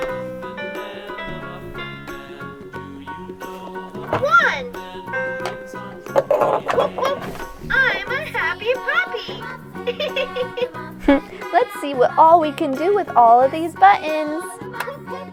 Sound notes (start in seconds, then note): 0.1 piano keys chime; 10.0 laughs